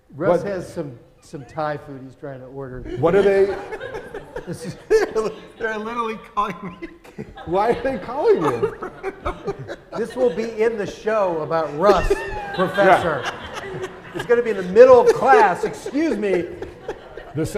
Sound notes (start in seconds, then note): 4.1 laughs